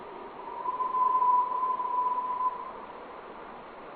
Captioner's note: water whooshing